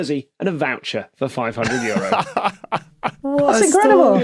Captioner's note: laughs